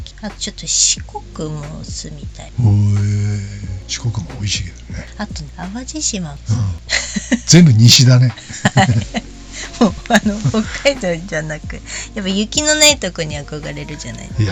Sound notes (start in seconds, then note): 7.9 laughs